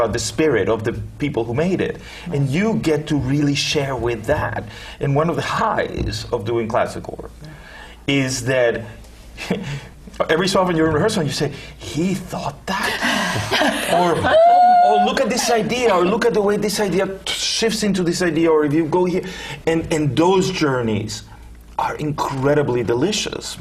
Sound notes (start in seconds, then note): 13.0 laugh